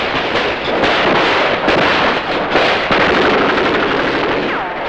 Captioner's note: guns shooting